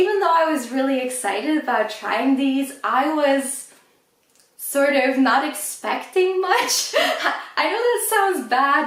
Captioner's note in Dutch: lacht